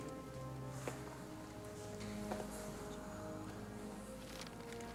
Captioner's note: footstep